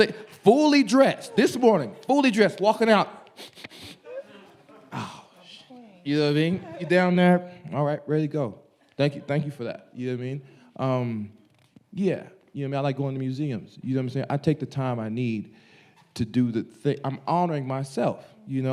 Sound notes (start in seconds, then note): 3.3 sniffing